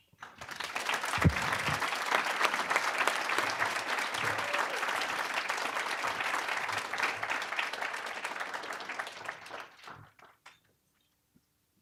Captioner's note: applause